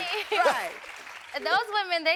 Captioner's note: chuckling